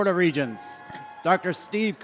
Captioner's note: audience cheering